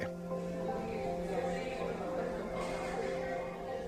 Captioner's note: indistinct chatter